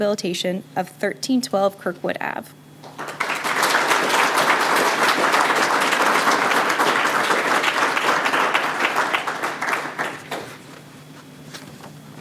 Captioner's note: applause